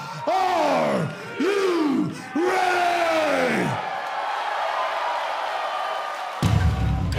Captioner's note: crowd cheering